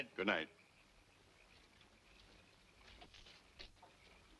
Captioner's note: frogs croaking